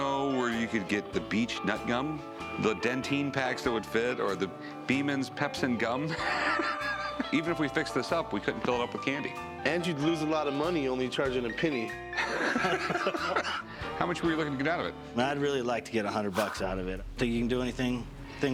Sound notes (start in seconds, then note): 6.1 laughs; 12.3 laughs